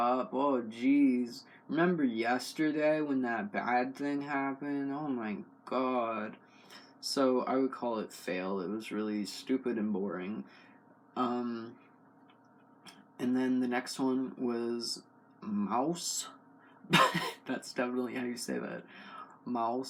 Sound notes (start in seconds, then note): 16.9 laugh